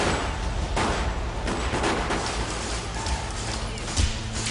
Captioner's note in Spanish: Disparos